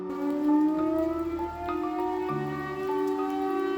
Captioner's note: air raid siren